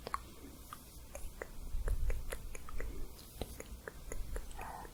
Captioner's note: stroking bristles